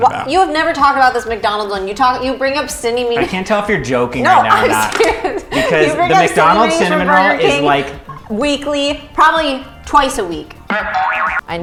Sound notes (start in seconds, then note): 4.5 laughs